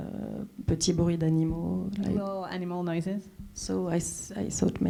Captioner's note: speaking French